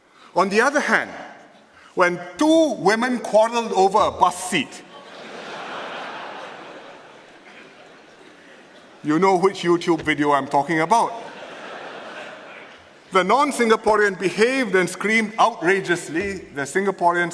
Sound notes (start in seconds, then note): 4.8 laughter; 11.1 laughter